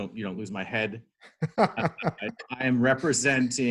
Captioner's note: laughing